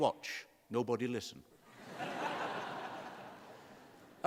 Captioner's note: laughter